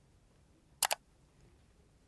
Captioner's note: clicking sound